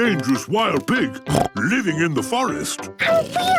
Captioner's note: snorts